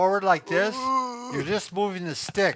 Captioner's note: grunts